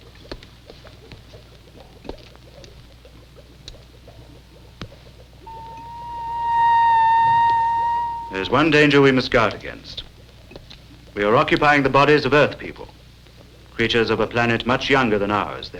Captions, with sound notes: (machine beeping) There is one day danger we must guard against. We are occupying the bodies of Earth people, creatures of a planet much younger than ours.